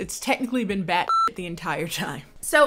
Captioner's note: beep